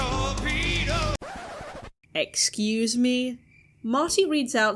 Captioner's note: record scratch